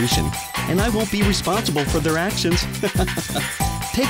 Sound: laughter

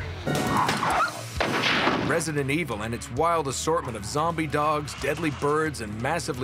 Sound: gunshots

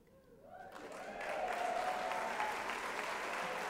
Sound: applause

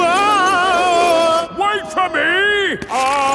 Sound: yelling

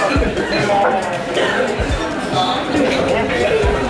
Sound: coughing

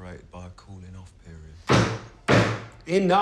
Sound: bangs on desk

